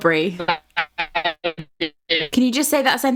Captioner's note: stuttering audio